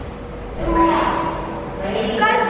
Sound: exclaims

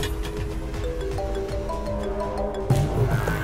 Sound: phone rings

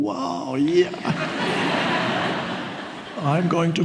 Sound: audience laughs

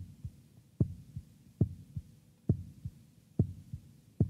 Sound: heartbeat continues

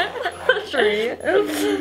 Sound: laughter

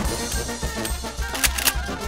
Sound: click click

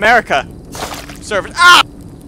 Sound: splashing

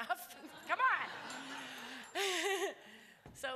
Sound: laughter

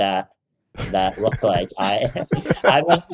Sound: both laughing

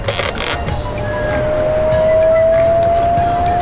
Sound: swirling

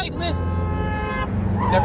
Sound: horn honks

